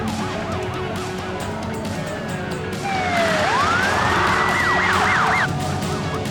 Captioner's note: sirens wailing; tires screeching